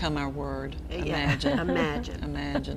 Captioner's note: laughing